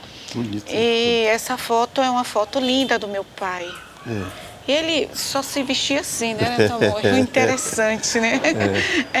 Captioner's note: laughs